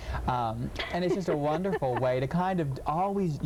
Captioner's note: laughing